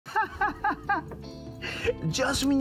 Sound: laughs

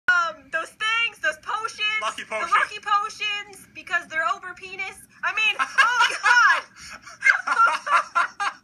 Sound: laughter

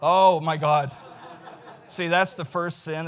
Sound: audience laughs

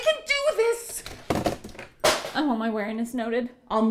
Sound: crash

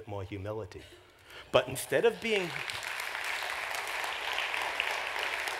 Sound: applause

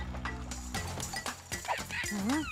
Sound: monkey cries

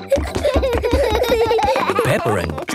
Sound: both giggling

